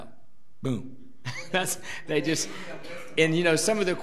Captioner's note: laughs